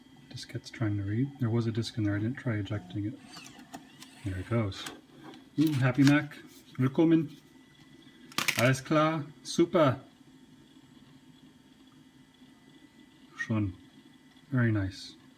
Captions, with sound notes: Diskette's trying to read - there was a disk in there, I didn't try ejecting it. *grind* There it goes! OOh, happy mac! Wilkommen! Alles klar. Super! Schön. Very nice.